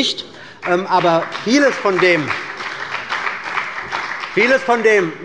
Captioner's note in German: Beifall bei der CDU und dem BÜNDNIS 90/DIE GRÜNEN